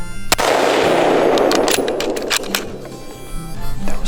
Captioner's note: gun fires